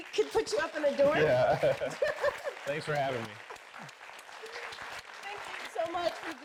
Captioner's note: laughing